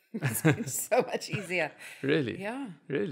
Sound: laugh

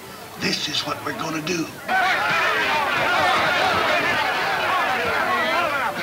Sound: men yelling simultaneously

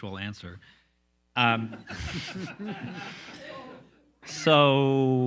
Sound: all laughs loudly

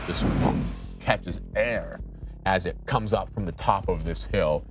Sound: dull thud

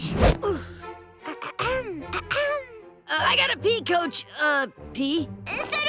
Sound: clearing throat

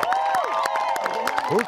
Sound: crowd cheers

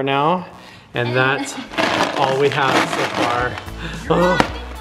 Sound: rattling

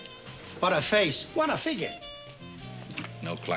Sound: none

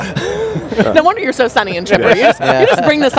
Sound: murmurs

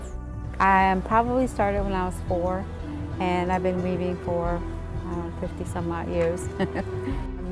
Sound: laughing

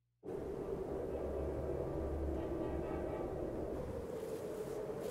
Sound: train whistle blows

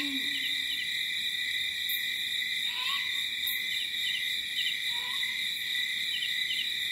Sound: owl hooting; light jungle ambience

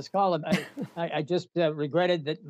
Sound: laughter

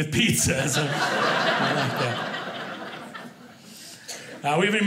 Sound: audience laughing

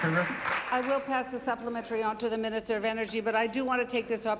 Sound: applause

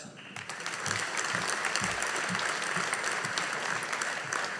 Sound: audience applauding

